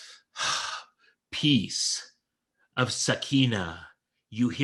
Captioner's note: sighs